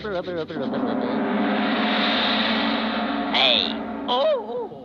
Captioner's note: gong banging